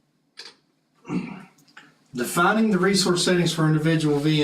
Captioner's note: cough